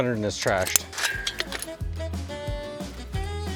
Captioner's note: upbeat music; chain clanging; upbeat music